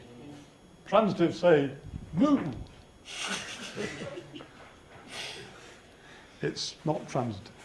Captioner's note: audience laughs